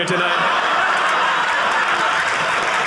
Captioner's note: audience laughing; audience applauding